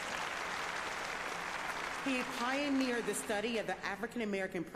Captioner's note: applause